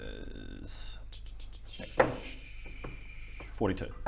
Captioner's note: searching noises